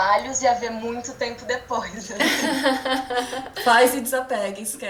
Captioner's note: laughter